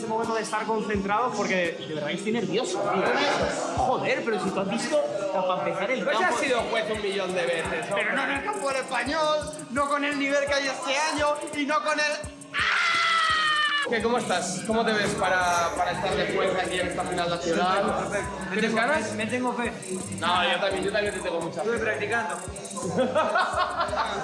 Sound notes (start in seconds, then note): 12.5 screams